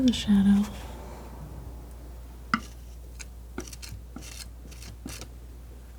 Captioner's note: scratching